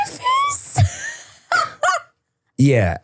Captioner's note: person laughing